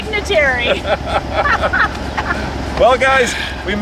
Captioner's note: laughing